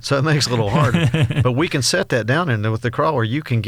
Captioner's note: laughs